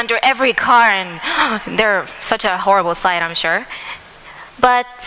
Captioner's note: sigh